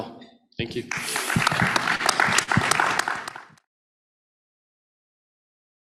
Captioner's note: applause